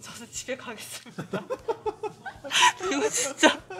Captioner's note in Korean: 웃음